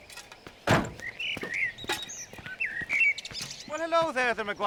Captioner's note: door slamming